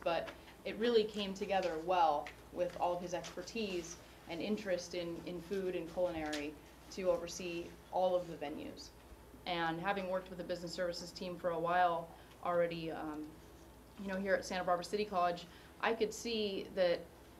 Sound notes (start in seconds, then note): none